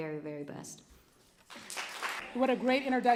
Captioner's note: applause